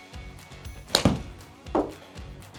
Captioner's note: clapping